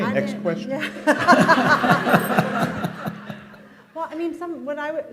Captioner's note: laughter